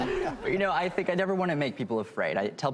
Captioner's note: laughing